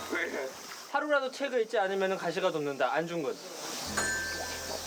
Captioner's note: reciting